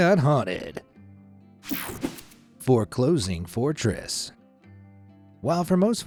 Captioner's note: cartoon swoosh